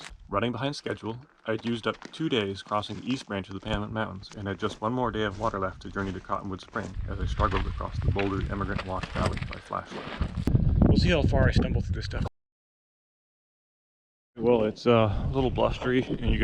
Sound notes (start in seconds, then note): 10.0 footsteps thumping; 10.1 wind whistling